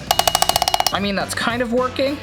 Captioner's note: hammer clanging